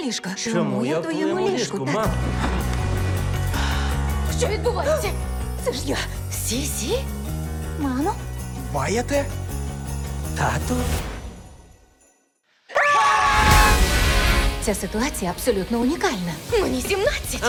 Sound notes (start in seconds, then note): 2.6 exhales; 5.0 gasps; 12.7 all scream; 13.4 rock music playing